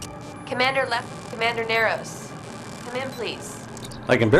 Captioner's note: Comm-Lefler, breaking up